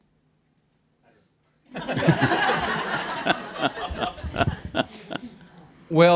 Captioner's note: laughter